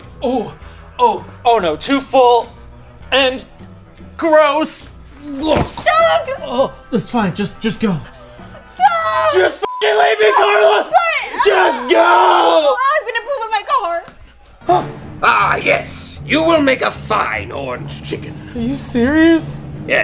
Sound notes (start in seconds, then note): 9.6 beep